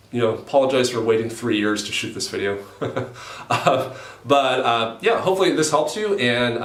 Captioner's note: laughs